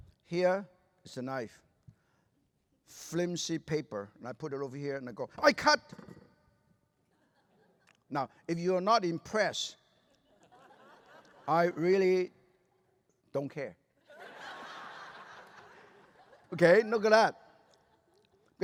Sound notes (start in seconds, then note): 14.0 laughter